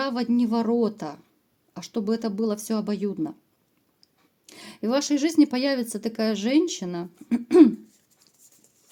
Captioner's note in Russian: откашливается